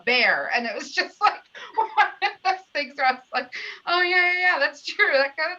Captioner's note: laughter